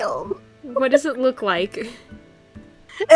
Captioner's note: giggles